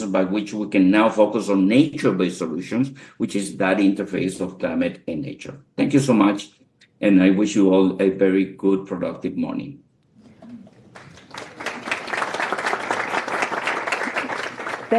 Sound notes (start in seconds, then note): 10.2 audience clapping